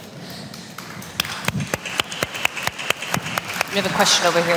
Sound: applause

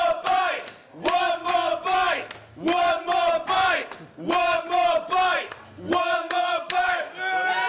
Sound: crowd - One more bite!

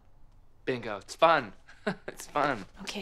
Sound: laughs

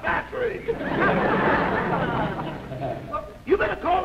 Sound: laughter

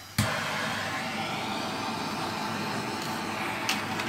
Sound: flame whirring

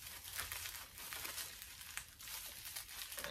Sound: plastic rustles

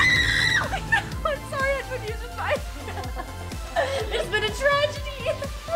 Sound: laughing

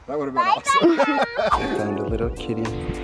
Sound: laughs

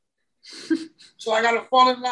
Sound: chuckles

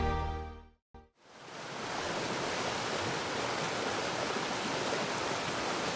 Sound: water splashing loudly

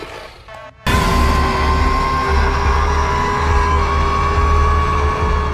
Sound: Scorpius Rex roars

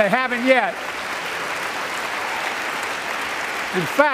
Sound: applause

